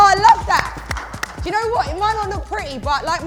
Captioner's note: clapping